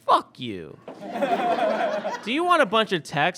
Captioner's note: audience laughs